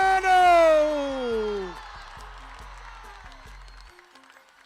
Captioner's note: crowd cheering